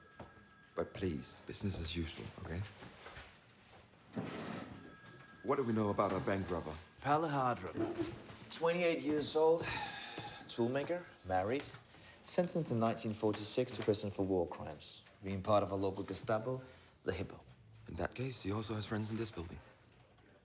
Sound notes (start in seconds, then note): none